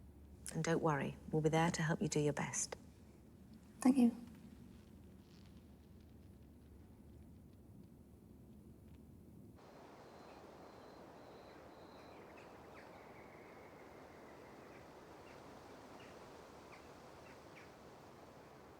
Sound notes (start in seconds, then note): 11.8 birds chirping